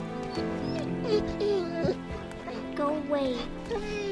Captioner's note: Bob whimpers